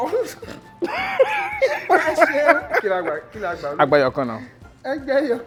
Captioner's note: laughs